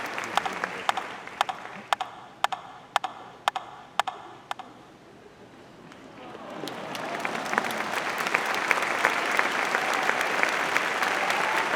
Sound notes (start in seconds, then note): 8.0 audience applauding